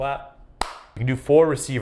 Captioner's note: clapping